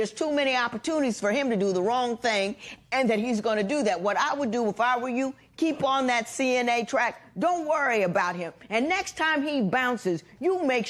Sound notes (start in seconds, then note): none